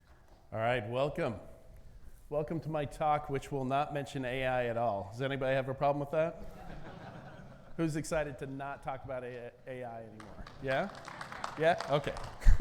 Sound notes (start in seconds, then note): 6.3 audience laughing; 9.7 audience clapping; 10.4 laughs